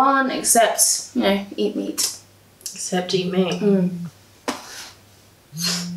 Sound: Doe’s phone buzzes

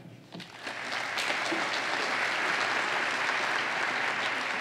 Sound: applause

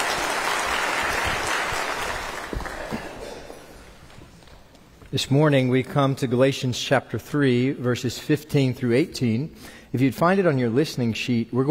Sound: applause

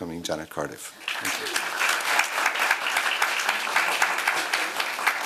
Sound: applause

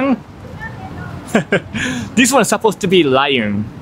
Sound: laughs

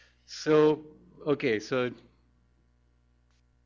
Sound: pause

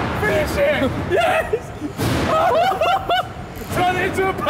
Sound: all laughing

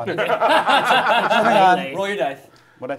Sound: laughing

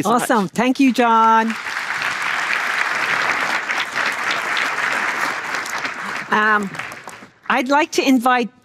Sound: applause

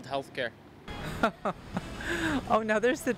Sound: light chuckle

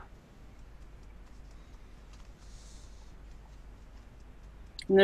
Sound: fingers tapping softly

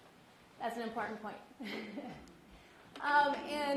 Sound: laughs

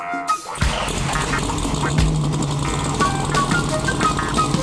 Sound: egine revving

